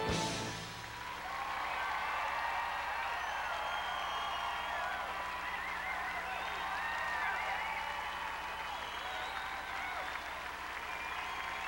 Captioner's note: crowd cheering